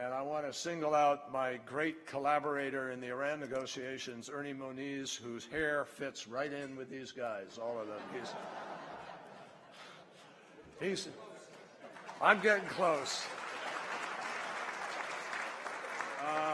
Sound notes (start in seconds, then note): 7.8 laughter; 16.3 applause